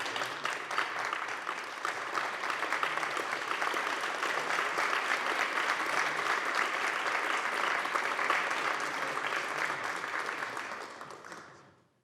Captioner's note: applause